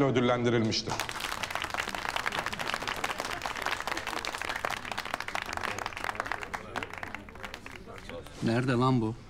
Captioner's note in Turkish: Alkış sesleri